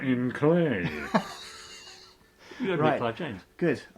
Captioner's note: laughs